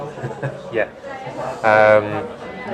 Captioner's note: laughing